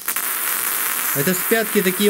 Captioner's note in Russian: треск